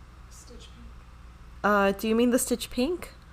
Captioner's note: woman whispering